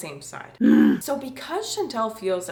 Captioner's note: grunting sound